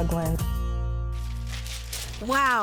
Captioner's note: paper fluttering